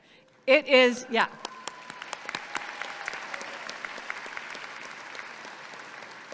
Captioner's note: audience cheers and applauds